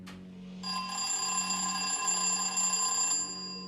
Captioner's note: ringing